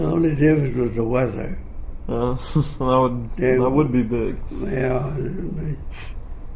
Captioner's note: laughs